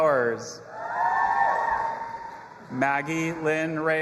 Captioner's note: audience applauding and cheering